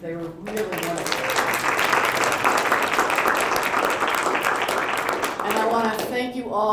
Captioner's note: applause